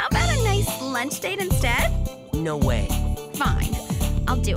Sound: none

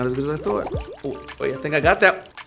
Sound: bubbles popping

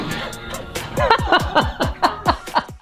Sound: laughter

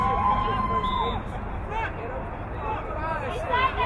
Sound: whistle blowing

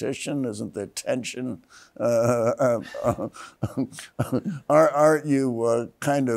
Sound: laughs

